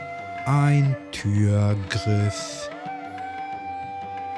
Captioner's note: german